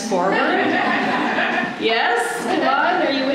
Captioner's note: laughter